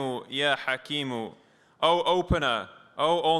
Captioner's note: non-english speech